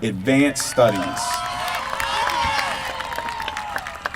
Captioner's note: applause